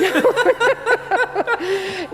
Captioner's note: laughing